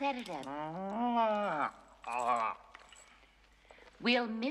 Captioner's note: Стонет